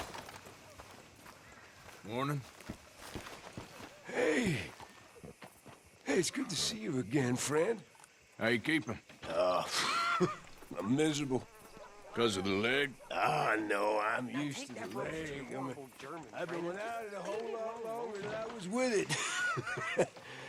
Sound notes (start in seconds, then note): 9.2 sighs and laughs; 18.7 laughs